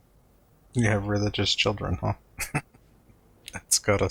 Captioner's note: chuckling